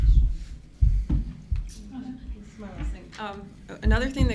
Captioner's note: woman speaks faintly